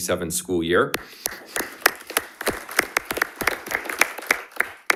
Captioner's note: audience applauding